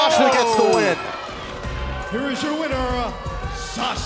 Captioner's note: bell ringing